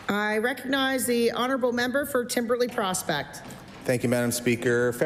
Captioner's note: applause